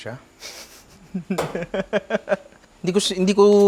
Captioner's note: laughs